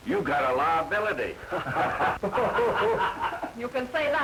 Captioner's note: laughter